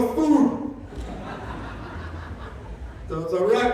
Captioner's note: laughter